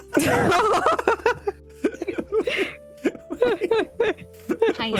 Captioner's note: laughter